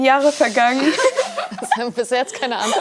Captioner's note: laughter